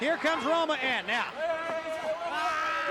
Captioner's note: crowd chatter